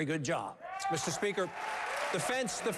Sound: applause

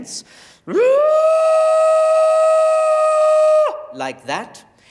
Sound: screams

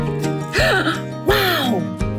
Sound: gasps

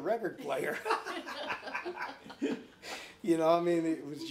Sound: all laughing

